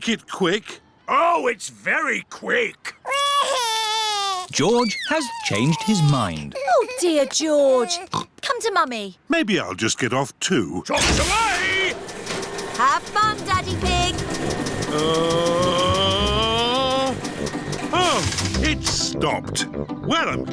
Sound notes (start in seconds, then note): 3.0 crying; 8.0 oinks